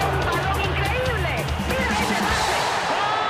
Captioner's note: crowd cheers